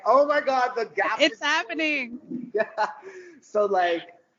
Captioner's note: both laughing